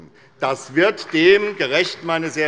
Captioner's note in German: Beifall bei der SPD